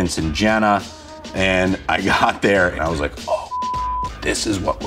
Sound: beeps

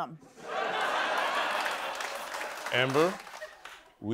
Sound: laughter

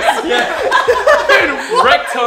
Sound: laughs

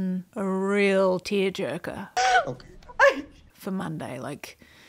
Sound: sobbing

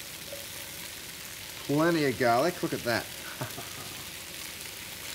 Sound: chuckles

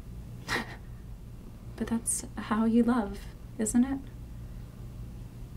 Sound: laughs

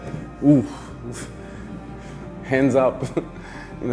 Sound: sighs

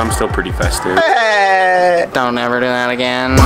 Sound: man imitates SpongeBob

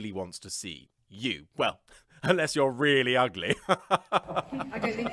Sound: laughs

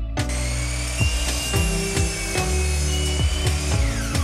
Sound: saw buzzing

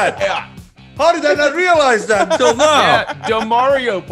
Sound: laugh

